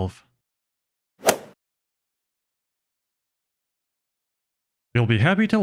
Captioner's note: golf ball hit sound effect